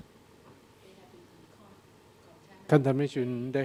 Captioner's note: woman speaking in background